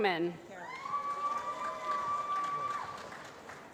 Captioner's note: applause